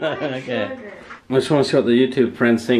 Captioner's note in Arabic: يضحك